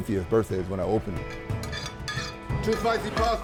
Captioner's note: loud clattering